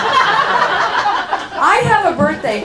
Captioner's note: laughing